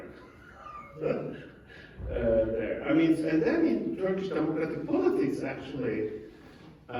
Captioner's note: chuckes